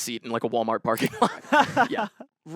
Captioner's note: laughs